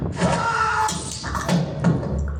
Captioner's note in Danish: nogen skriger